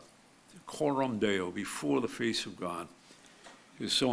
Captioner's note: speaks foreign language